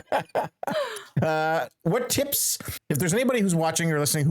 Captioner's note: laughing